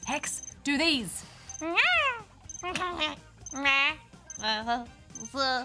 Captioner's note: makes nonsense noises